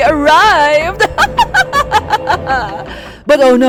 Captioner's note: villainess laugh